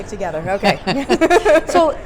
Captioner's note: laughs